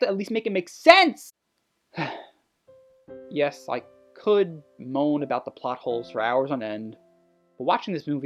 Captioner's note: sigh